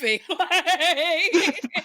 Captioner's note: laughing